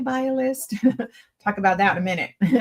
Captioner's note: chuckles